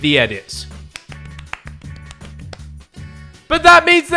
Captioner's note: clapping faster